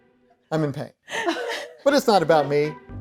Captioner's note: laughing